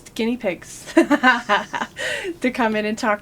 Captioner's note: laughter